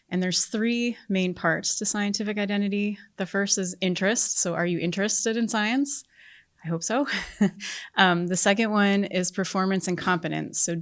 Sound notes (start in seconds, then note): 7.0 chuckles